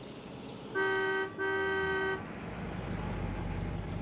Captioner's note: horn honks